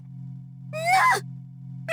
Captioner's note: horrified gasp